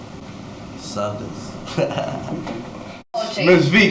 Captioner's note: laughter